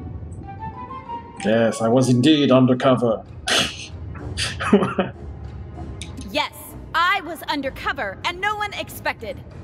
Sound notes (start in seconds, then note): 4.4 laughs